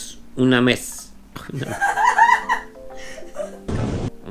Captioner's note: laughs